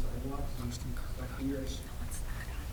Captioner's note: whispering